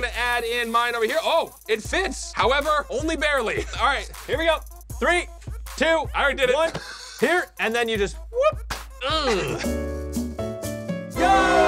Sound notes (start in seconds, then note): 6.5 laughs; 8.6 beeps; 9.2 elevator music